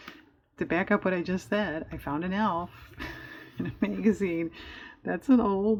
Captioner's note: laughs